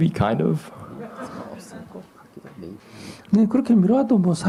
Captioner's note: audience Laughter